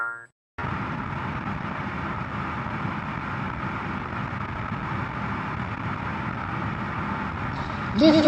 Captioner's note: rocket blast